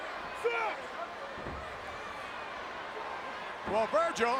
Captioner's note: Mr. Fuji speaks Japanese